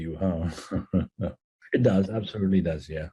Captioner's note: laugh